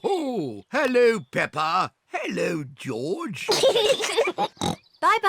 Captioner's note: peppa and george giggle; oinks